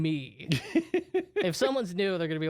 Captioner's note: laughs